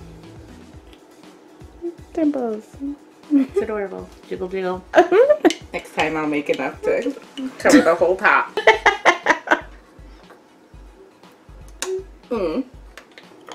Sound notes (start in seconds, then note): 5.0 laughs again; 8.5 laughs; 12.1 smacks mouth